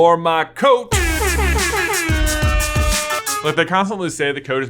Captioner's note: buzzers sound